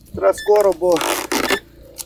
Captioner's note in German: Pieptöne